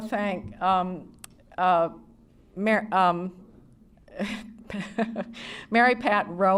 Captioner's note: laughter